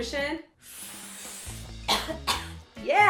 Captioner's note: inhaling and coughing while Reggae music begins again